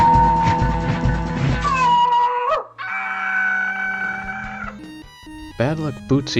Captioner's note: Bootsy screaming in agony